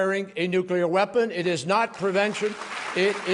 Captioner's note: applause